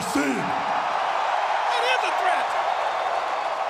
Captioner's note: audience cheering